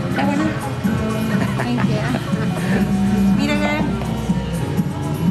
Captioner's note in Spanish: voces